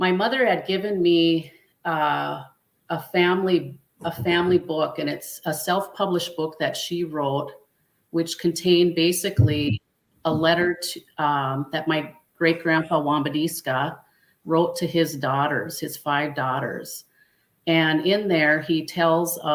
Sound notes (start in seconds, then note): 13.1 speaking Dakota